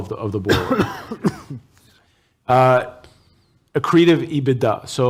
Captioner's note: coughs